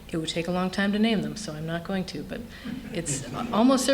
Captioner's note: laughter